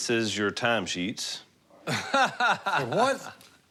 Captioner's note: laughs